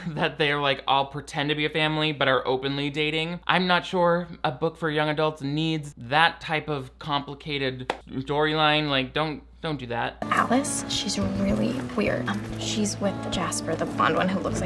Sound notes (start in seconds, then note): 0.0 chuckling; 8.0 claps hands once